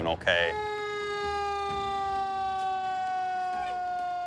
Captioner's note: sirens